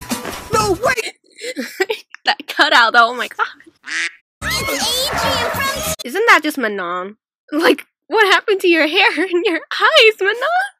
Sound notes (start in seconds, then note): 0.8 laughs; 3.6 quack